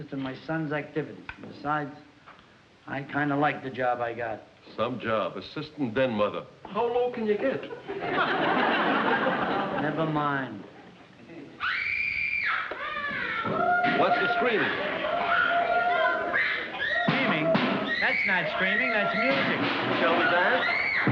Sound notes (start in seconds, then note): 11.2 screaming; 12.6 chanting